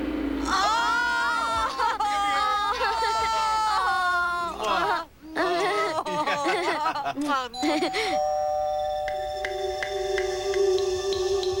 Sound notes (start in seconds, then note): 7.6 doorbell rings